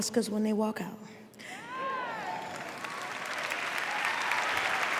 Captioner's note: cheering